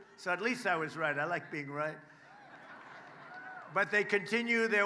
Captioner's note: applause